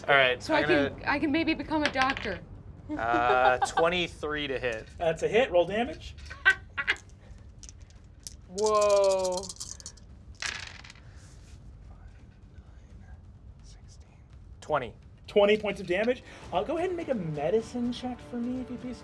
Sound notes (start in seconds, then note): 1.8 die rolls; 2.9 laughs; 6.2 laughs; 10.3 dice rolls